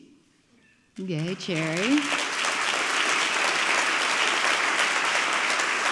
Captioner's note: audience clapping